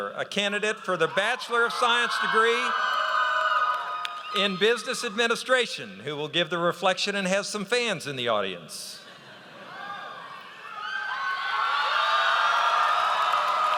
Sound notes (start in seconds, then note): 9.1 audience laughs; 9.7 audience cheers